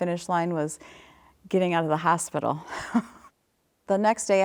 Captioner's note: chuckles